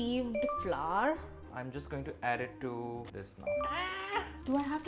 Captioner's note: screams